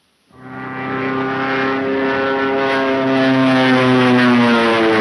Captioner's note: engine roaring